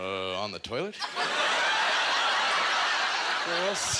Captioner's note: audience laughter